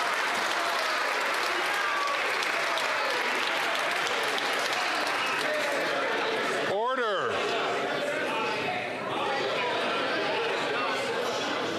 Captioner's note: some Applause